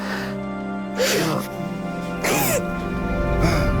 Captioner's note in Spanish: Sollozos